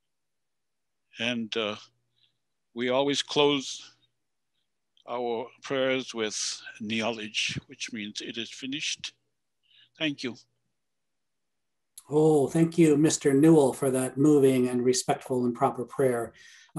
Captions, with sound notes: And we always close our prayers with (speaking in Passamaquoddy language), which means it is finished. Thank you. Oh, thank you, Mr. Newell for that moving and respectful and proper prayer.